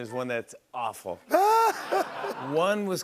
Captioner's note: laughter